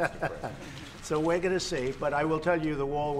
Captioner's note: laughs